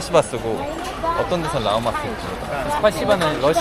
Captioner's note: uzbek